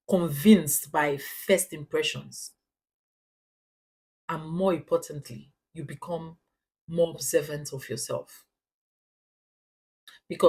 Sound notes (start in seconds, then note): 5.3 paause